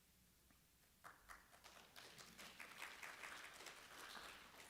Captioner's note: applause